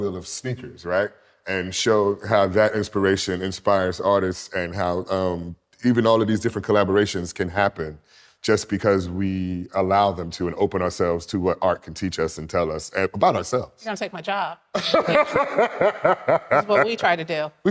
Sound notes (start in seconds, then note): 14.8 laughs